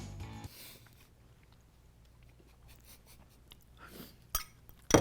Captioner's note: chuckling